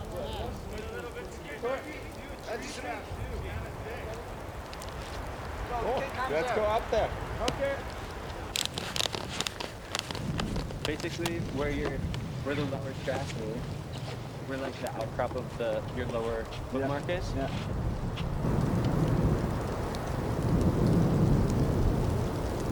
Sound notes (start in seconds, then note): 0.0 group chatting; 8.5 clicking; 18.4 strong wind blowing